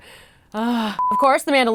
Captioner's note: sigh